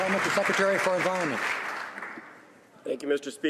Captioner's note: some Applause